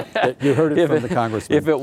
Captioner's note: laughing